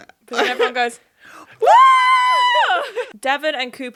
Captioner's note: screaming